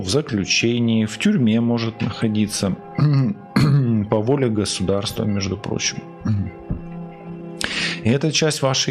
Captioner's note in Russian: откашливается